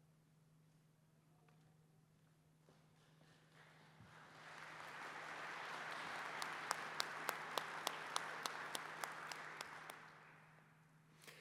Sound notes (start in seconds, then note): 3.0 applause